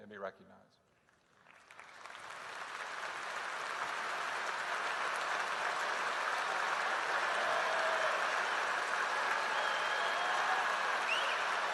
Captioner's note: applause